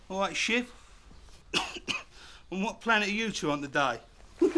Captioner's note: coughing